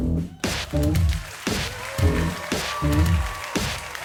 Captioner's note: hip Hop music; audience applause